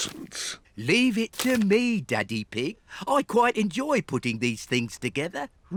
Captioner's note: snorts